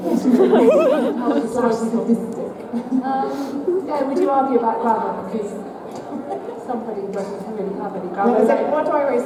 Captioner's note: laughter